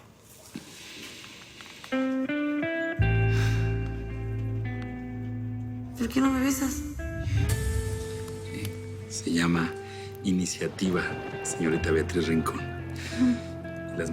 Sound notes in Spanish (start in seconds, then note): 3.3 Suspiro